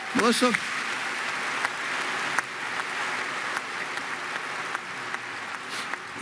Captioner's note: Applause; 掌聲